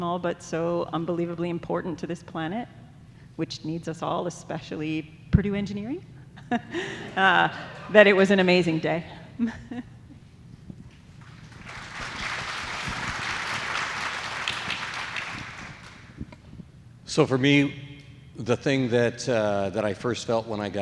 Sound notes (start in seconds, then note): 11.2 audience applauds